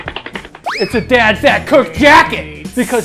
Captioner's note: cartoonish running